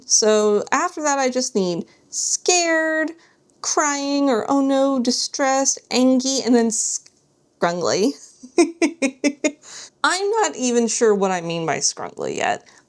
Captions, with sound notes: So after that I just need scared, crying, or oh no distressed, angy, and then scrungly. [laughter] I'm not even sure what I mean by scrungly yet.